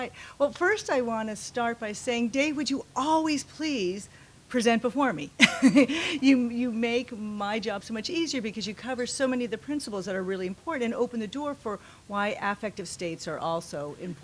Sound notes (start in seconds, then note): 5.4 laughs